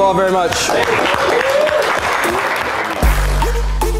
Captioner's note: applause; techno music